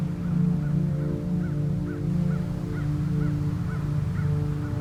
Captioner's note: bird cawing